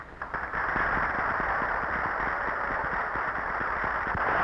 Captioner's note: audience applauding